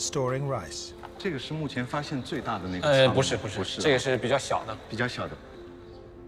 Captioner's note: speaking in foreign language